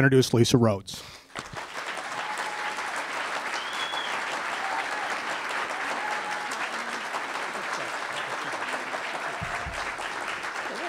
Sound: applause

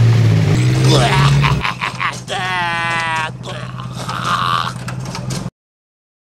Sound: vomit cackling sounds

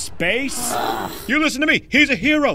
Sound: studio audience gasping

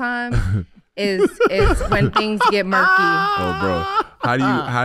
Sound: laughing

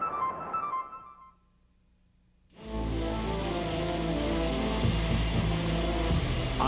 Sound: piano; jet engine noise

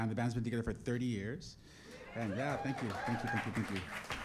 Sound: applause

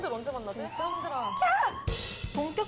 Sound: screaming

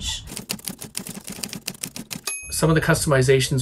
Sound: typewriter keys clacking

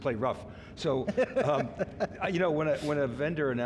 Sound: laughing

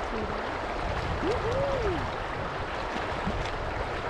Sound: soft cheering

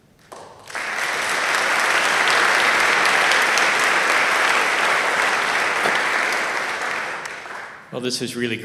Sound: applause

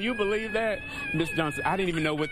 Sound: screaming from phone

